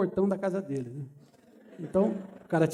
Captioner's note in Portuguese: risos